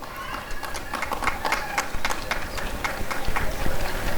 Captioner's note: applause and cheering